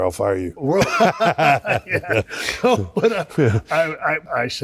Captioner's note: Shawn Michaels and Triple H laughing